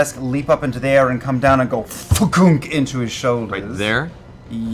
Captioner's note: stabbing sound